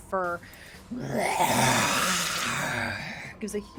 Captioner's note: bear growls loudly